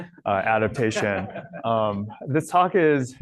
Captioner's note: laughter